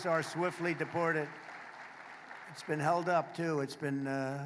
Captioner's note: applause